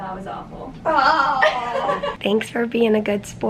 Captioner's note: llaughter